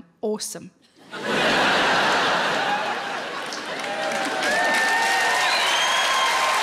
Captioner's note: audience laughing and applauding